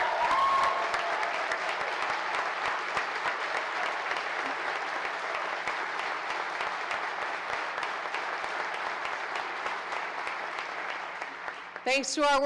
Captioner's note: applause